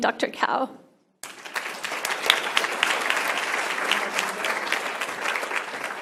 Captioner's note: applause